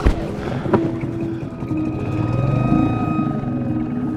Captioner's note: boat rumbling